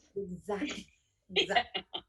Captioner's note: laughter